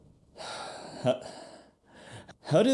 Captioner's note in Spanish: suspiro